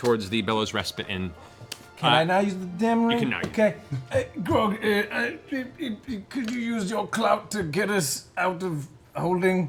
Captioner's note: stutters